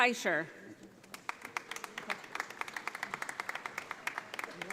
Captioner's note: audience applauding